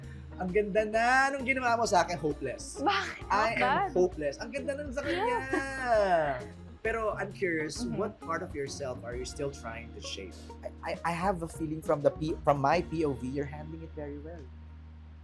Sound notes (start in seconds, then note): 5.0 belle chuckles